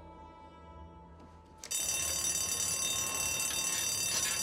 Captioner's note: bell rings